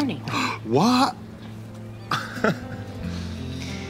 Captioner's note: gasps; laughs